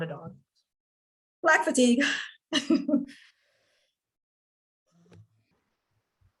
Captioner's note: laughs